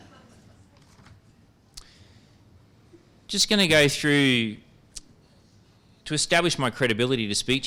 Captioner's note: laughter